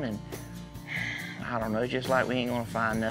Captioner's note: sighs